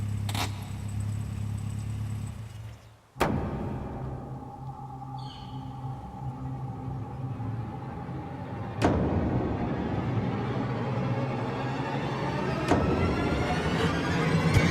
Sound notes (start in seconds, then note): 0.2 handbrake being pulled and engine stopping; 3.5 ominous music starts